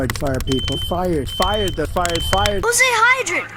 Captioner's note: smoke detector going off